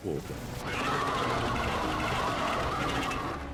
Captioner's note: shrieks